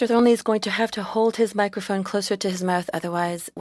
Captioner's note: speaking FRENCH